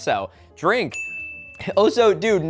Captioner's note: ding